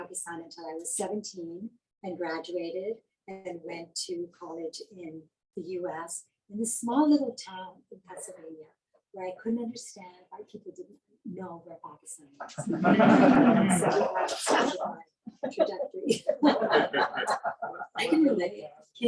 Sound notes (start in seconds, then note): 12.4 laughing